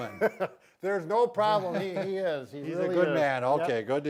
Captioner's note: chuckling